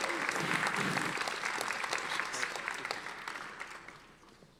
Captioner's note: audience applauding